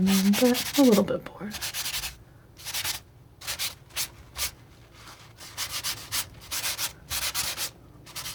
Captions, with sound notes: mean a little bit bored (scratching)